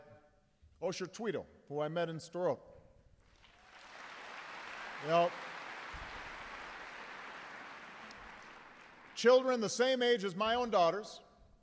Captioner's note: applause